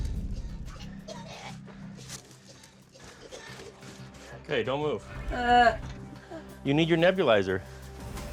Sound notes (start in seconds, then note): 0.4 coughing; 5.2 moaning